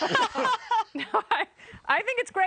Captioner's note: laughter